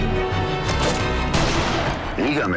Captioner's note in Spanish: Disparo